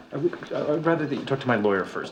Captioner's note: none